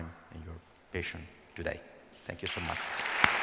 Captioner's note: applause